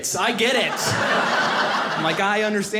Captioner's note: audience laughing